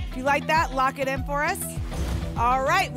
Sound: whoosh; thump

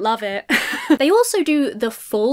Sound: laughs

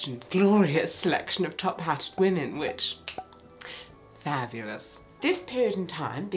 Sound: snaps

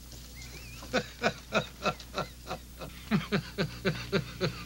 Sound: neighbor laughing

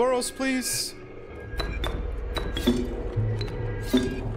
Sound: door opens

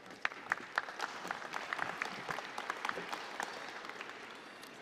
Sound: applause

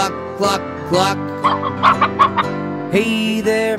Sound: chicken clucking

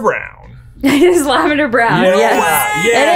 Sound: laughs

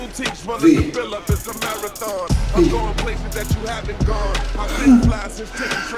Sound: sob

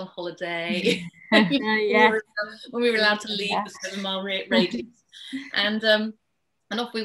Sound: laughs

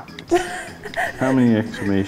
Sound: laughing off camera

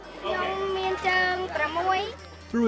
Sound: girl speaks local language

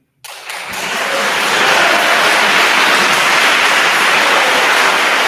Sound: attendees applauding

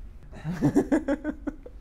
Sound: laugh

